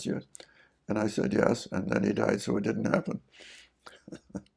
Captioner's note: laughs